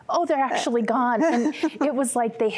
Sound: giggling

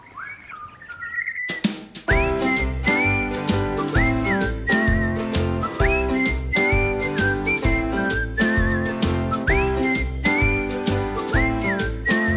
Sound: whistling

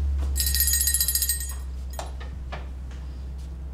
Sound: bell rings

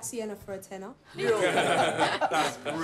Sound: laughing

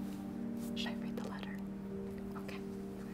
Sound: whispering

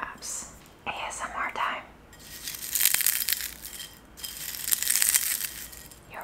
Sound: cucumber skins crunching

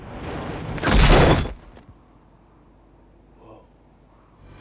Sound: thudding

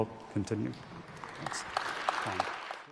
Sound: students applauding

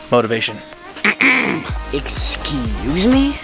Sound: clears throat

